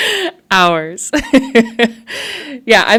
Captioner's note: laughs